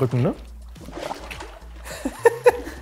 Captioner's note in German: Plätschern, Lachen